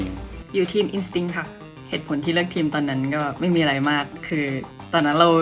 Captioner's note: speaks in foreign language